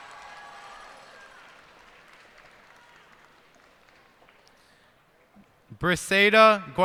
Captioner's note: cheers and applause